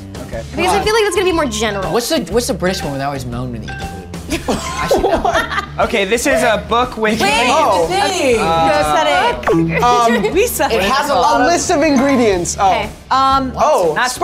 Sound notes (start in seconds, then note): 4.2 group laughs